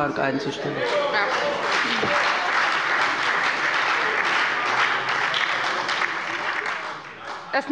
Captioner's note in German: Beifall bei der SPD und der FDP